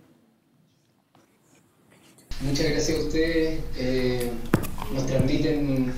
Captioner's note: speaking spanish